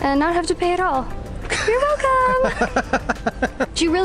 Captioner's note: laughter